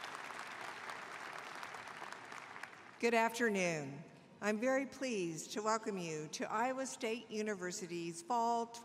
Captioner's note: applause